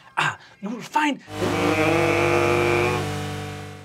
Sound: buzzing

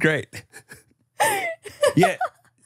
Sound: everyone laughs

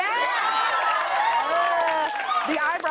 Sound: cheers and applause

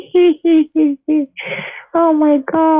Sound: deep breath

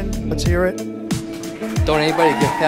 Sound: cheering

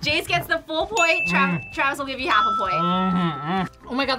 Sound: ding

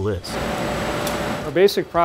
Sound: machinery sounds

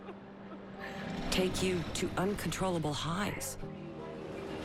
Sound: crying

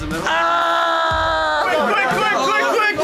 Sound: shrieks

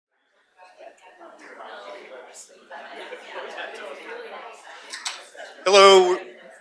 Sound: crowd chatter

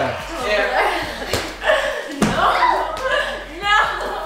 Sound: laughing

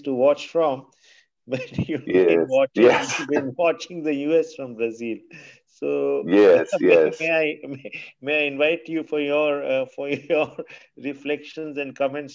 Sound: laughter

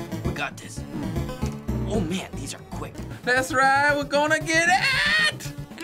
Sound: none

